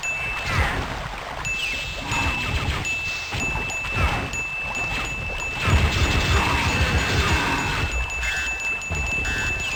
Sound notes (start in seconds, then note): 0.0 another ding; 2.8 dinging continues; 8.0 dinging increases in frequency